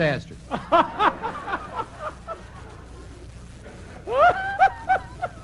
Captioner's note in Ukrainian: сміх